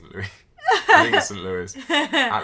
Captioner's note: laughs